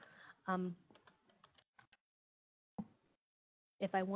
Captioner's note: computer keys clicking